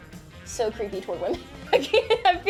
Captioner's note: laughing